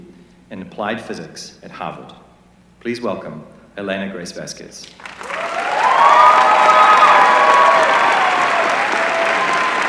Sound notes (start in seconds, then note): 4.8 applause